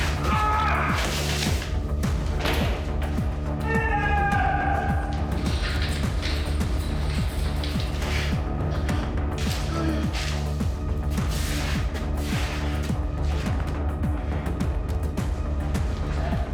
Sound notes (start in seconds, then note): 0.3 Jan screaming in pain; 6.2 running; 13.7 intense music